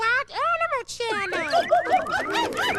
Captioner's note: hooting